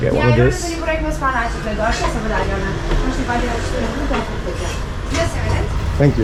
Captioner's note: foreign language